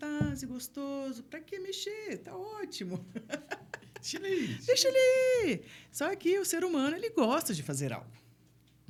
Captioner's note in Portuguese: risadas